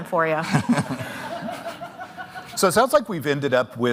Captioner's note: all laughing